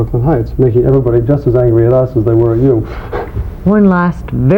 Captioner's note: laughing